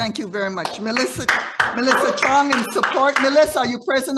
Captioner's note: audience applauding